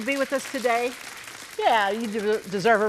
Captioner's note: audience applauding supportively